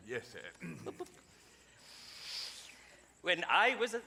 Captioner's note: audience chuckles